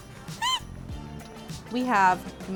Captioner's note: squeals